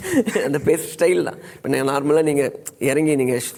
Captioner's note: laughs